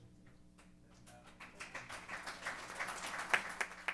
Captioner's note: applause